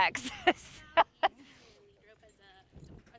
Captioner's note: laughing